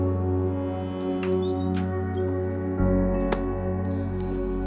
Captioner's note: door creaks